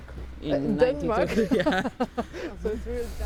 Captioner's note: laughing